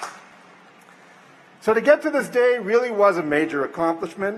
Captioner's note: applause